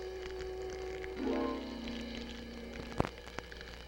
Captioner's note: flames crackling